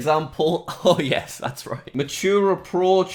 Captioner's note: laughs